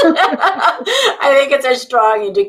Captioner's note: laughing